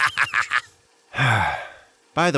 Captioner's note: laughing ultra-sauerkrautely; sighing normally